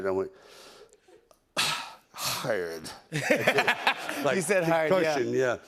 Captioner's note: groans